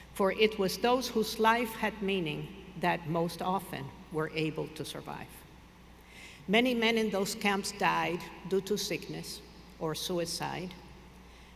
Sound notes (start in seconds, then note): none